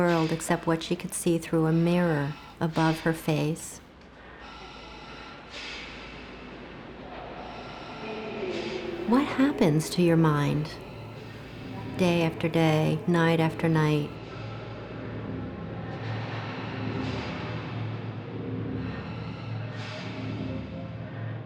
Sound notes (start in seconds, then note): 4.7 machine expelling air, voices echoing in distance; 15.3 machine expelling air, voices echoing in distance